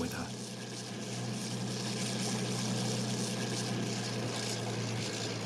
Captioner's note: train engine revving